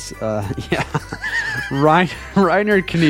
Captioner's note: laughing